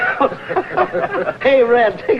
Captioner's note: happy laughing